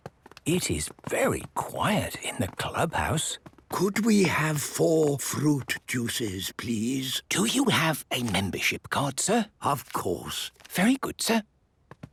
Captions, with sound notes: - It is very quiet in the clubhouse. - (speaking quietly) Could we have four fruit juices, please? - Do you have a membership card, sir? - Of course! - Very good, sir.